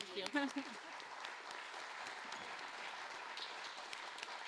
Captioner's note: audience applauding